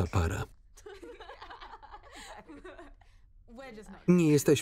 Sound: Lana and Kym laugh

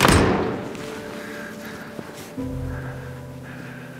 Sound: door slams

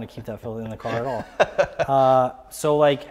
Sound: laughs

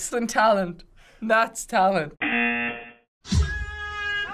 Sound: buzzer; funky Latin music

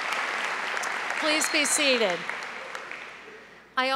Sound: applause

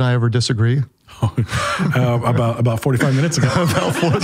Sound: laughing

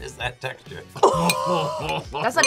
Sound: both laugh

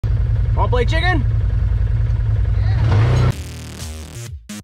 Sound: engine revs; intro music

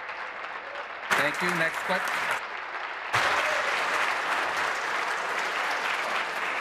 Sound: applause; continued applause

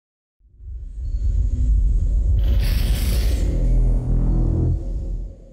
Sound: cinematic whooshing sound

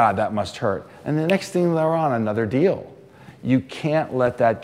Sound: snaps

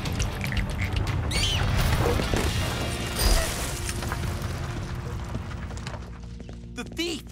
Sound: screaming

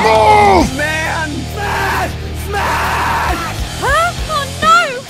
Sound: Heavy's voice; war scream

